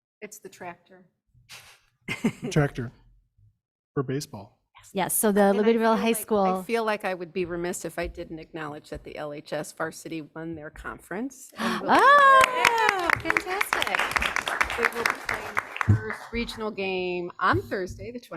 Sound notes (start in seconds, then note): 11.6 people cheering; 13.7 people clapping